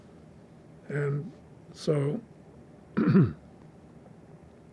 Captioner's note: clears throat